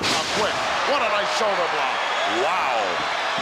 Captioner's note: crowd cheers